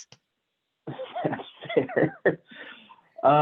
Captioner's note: laughs